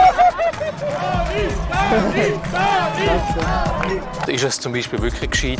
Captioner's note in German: im Chor